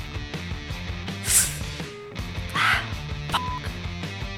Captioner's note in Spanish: inhalación profunda